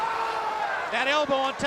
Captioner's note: crowd cheering